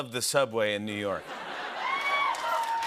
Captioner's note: laughter; cheers and applause